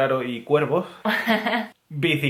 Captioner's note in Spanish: ríe